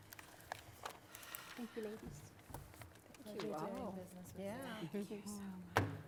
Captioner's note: background chatter